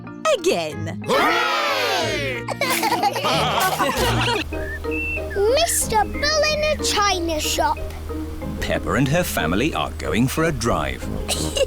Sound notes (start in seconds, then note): 2.4 laughter